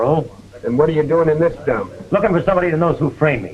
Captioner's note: sniffy